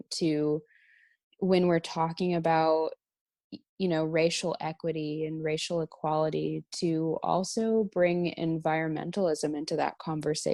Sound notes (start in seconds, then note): none